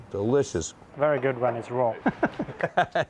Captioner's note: laughing